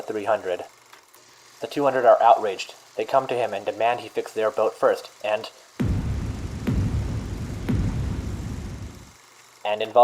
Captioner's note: gunshot sounds